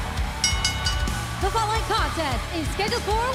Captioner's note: bell ringing